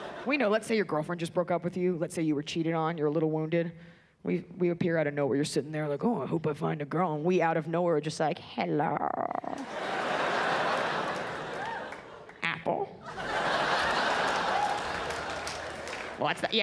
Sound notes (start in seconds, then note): 9.5 audience laughs